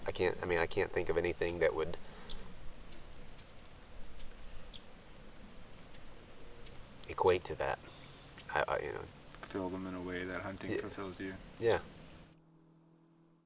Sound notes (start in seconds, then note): 9.1 stuttering